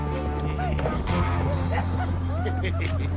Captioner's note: men laughing